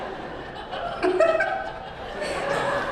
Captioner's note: laughter